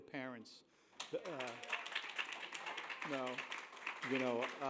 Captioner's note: applause